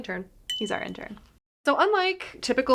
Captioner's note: bell ringing